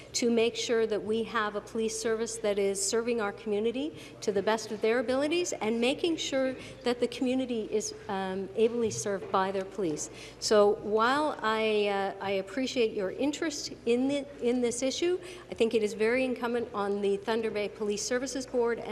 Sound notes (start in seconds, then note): none